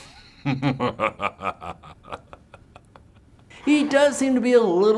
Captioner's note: evil laugh